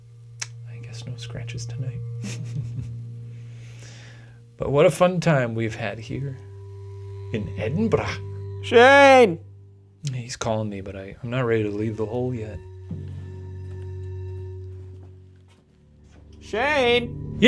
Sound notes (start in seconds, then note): 2.2 chuckles